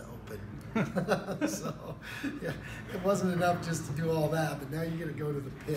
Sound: laugh

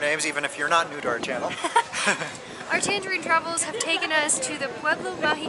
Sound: laughter

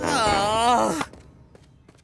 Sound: groaning

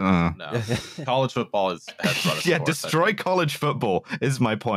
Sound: laughs

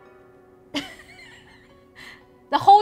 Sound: laughing

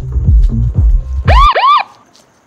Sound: siren blares

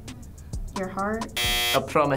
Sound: buzzer blares

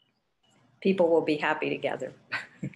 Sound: giggles

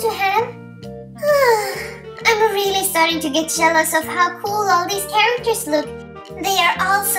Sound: sighing

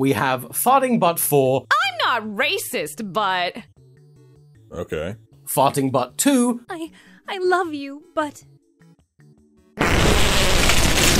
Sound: fart

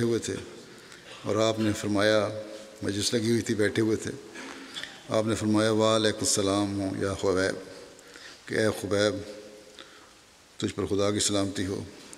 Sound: Arabic

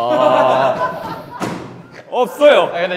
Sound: dying of laughter

